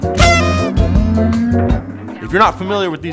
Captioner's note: quirky music playing; party horn sounding